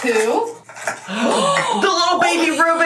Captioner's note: gasps